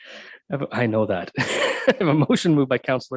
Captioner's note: laughing